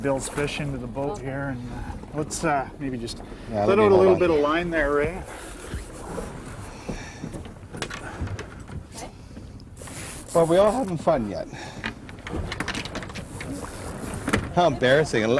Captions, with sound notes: Is it funny we didn't pull him off each other? I'll deal with that in a minute. I'll go get Bill's fish into the boat here. Let's maybe just-- Yeah, I'll do it. Let's put a little bit of line there, Ray. (sighing) But we all haven't fun yet.